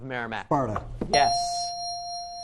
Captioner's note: ding